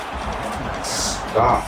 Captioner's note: crowd Noises